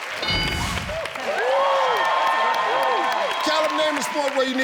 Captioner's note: audience cheers; ding sound